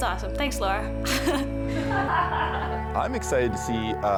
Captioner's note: giggles